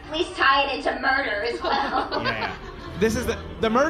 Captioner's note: audience laughing